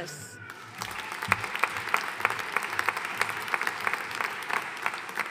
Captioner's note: audience applauding